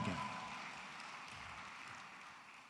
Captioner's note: applause